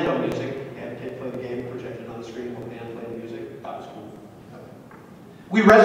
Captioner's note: chuckles